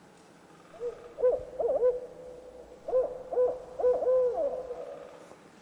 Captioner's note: owl hooting